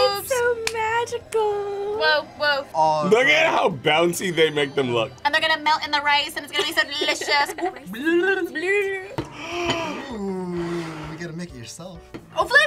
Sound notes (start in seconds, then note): 8.0 babbles; 9.2 gasps